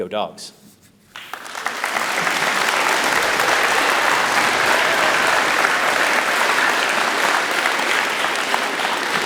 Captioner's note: applause